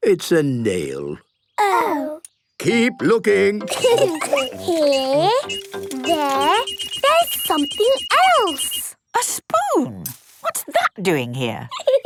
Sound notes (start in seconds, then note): 3.7 laughter; 6.7 beeping